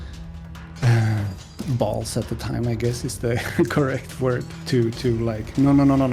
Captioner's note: sigh